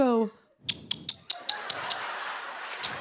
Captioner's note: clicks tongue; laughter and applause